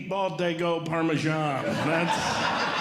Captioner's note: audience Laughing